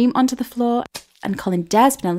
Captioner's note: splat